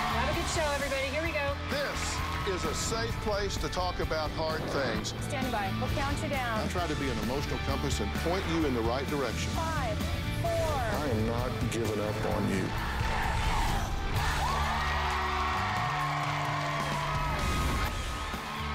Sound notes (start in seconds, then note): 14.3 crowd chanting "dr. phil!"; 17.0 cheers and applause